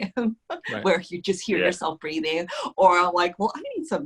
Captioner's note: laughs